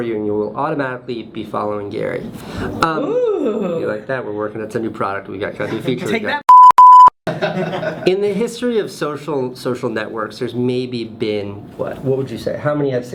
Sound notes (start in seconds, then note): 6.4 beep; 7.3 laughs